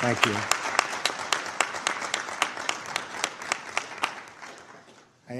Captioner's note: applause